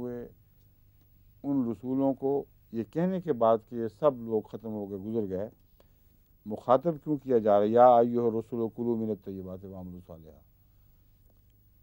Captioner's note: Arabic